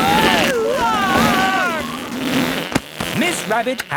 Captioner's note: screaming; crowd gasps